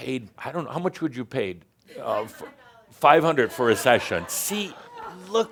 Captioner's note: someone shouts “Five hundred dollars”